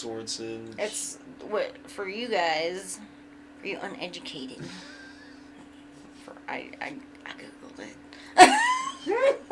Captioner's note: whispers